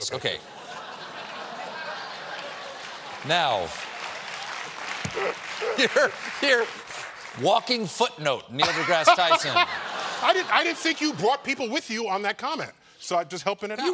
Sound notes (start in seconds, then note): 2.0 applause